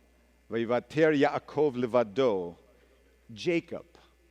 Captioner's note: speaking hebrew